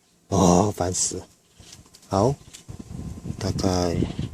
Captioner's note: roar